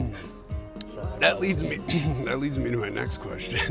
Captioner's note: laughing; throat clearing